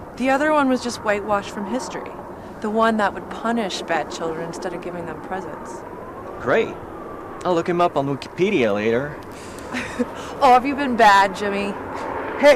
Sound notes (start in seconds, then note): 9.4 Angelica chuckles